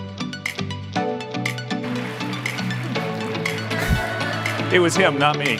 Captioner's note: applause